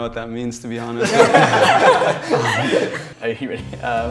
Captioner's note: all laughing